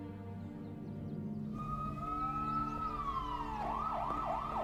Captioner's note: sirens wailing